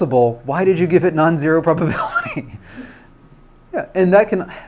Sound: laughs

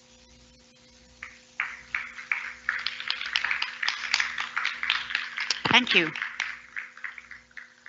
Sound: applause

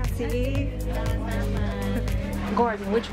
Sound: in Indonesian

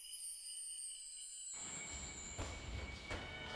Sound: someone coming downstairs

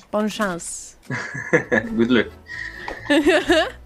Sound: French; laughs

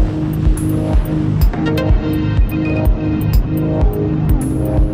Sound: upbeat music; wind whooshing

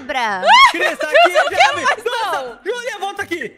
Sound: screams

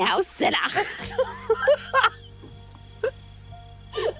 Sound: both laughing

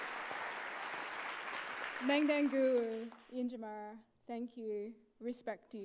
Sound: applauds; speaks indigenous language

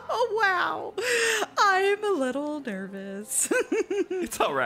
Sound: giggles nervously

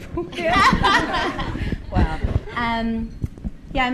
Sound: audience laughing

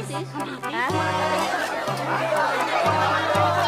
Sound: clamoring

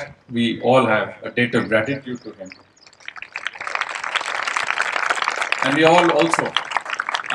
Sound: applause

